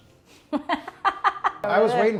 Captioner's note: laughs